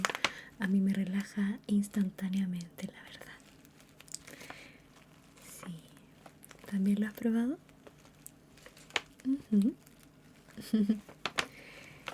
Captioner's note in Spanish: risas